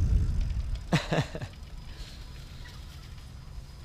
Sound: laughs

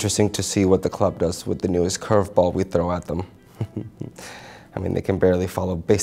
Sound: laughs

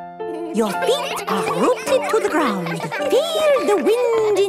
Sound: all giggling

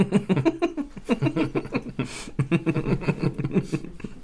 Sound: business Woman Giggles

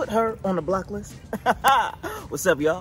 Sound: laughs

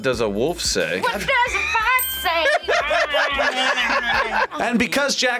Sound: group laughs

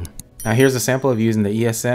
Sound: bell rings

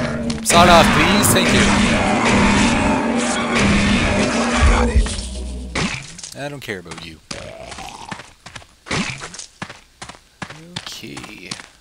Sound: gunfire and monster roars; monster retches

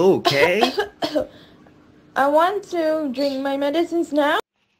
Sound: coughing Sounds

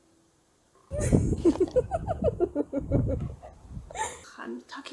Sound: laughs

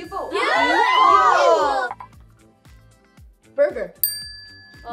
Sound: group cheering

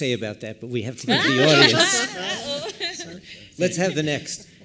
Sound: laughter

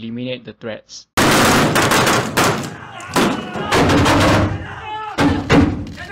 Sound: gunshots & screaming

